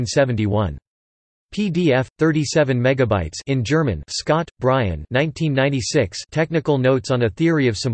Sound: in German

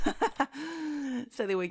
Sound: chuckling

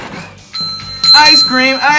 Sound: bell ringing

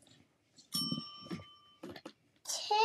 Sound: bell dings

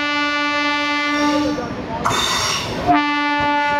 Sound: train horn

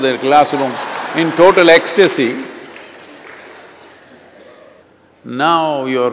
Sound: laughter

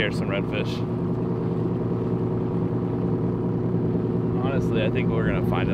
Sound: motorboat engine

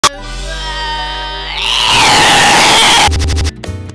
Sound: weird screaming

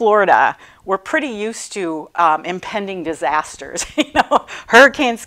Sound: laughing

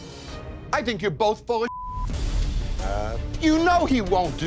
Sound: beep

